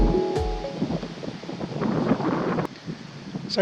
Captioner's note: wind